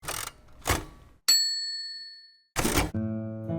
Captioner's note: typewriter clicks; bell dings; gentle music